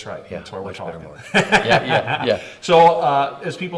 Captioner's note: laughs